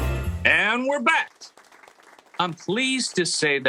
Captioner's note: audience clapping